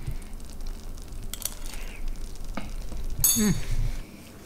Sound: clanking; moans

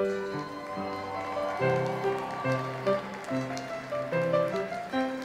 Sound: audience cheers and applauds

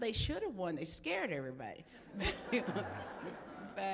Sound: laughter

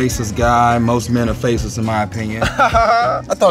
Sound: laugh

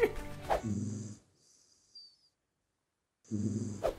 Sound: laughs; dog snoring

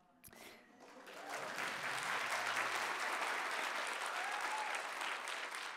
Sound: audience applauding

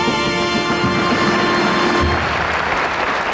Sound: audience applauding

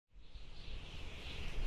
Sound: wind whirling

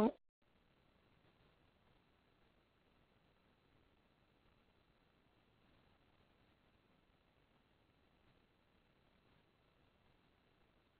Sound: silence

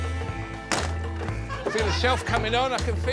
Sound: upbeat music; audience laughing; sled clattering

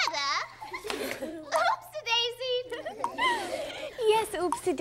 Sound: giggling

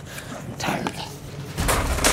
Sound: whispers

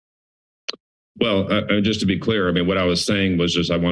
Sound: clicks tongue

